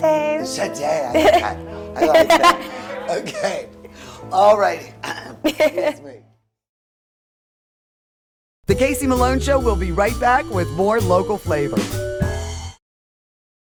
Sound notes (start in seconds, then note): 5.0 clears throat; 5.0 laughs